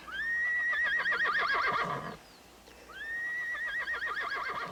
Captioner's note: horse whinnying